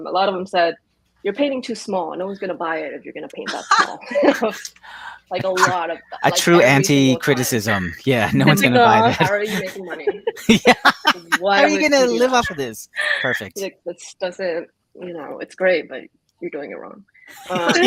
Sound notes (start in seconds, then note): 5.4 everyone laughs; 11.5 laughs